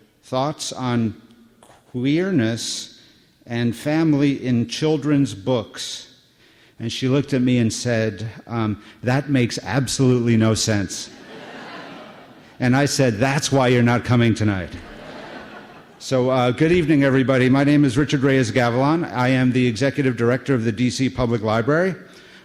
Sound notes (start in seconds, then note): 11.1 laughter